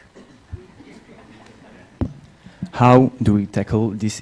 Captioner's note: laughter